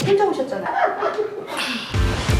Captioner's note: sigh